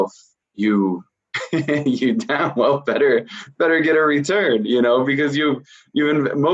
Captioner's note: laughing